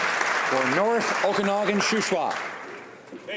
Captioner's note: applause